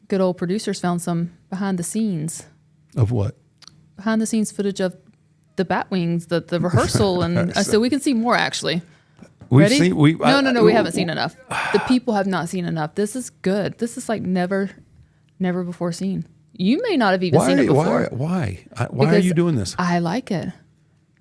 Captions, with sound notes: good old producers found some behind the scenes? Of what? Behind the scenes footage of the bat wings. The rehearsal (Mark laughs) and so we can see more actually. Ready? We've seen- No, no, no, we haven't seen enough. (Mark sighs) The people have not seen enough. This is good. This is like never, never before seen. You may not have even seen it before. Why, why, why? Why are are you doing this? Because I like it.